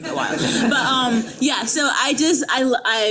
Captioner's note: attendees laughing